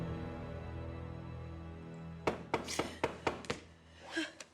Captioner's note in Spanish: toques en la puerta